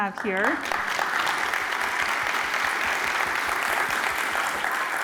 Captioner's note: applause